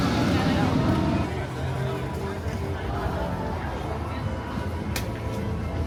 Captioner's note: guests squealing; roller coaster wheels thundering